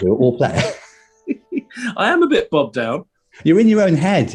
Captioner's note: giggling